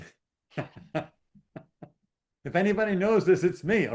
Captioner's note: laughing